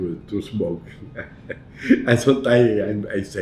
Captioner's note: laughs